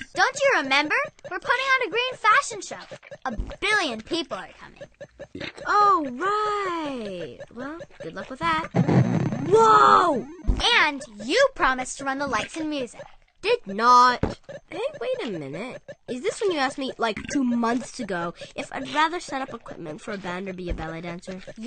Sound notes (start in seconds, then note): 8.3 video game explosion